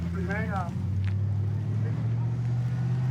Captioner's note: truck driving